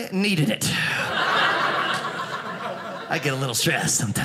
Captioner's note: audience laughing